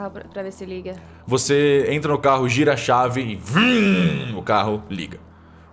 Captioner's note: vroom